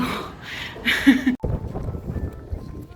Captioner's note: laughs